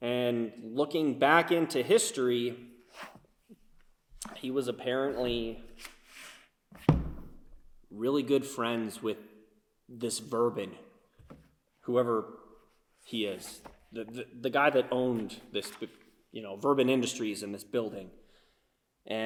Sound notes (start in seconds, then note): none